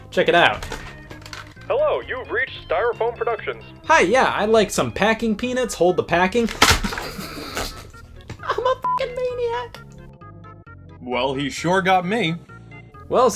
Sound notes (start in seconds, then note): 6.8 laughing; 9.2 beep